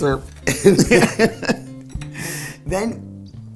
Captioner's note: ladies laughing